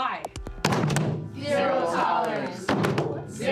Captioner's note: class in unison